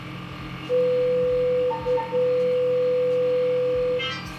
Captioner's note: laser beeping